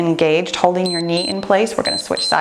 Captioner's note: timer beeps